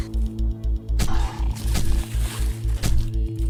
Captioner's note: stabbing impacts